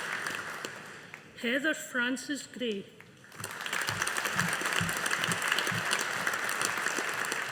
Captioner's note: audience applauding